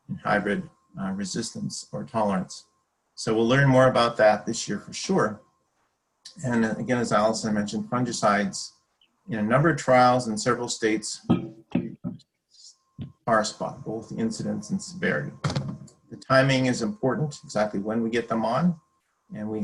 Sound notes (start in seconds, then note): 11.2 microphone banging